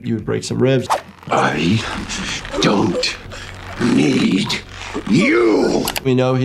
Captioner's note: victim choking